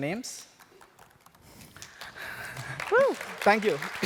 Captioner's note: applause